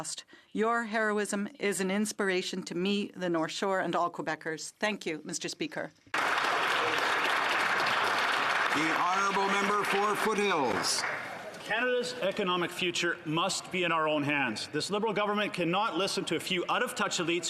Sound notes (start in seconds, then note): 9.4 applause